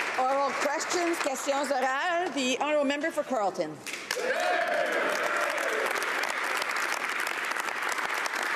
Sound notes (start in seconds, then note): 1.9 applause; 4.7 speaking French; 7.4 some Applause